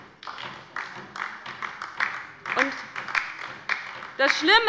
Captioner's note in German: Beifall bei der LINKEN